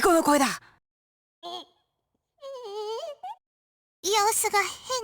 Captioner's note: strained whimper